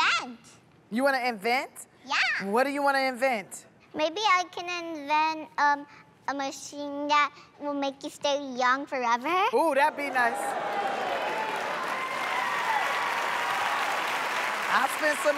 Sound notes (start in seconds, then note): 10.0 cheers and applause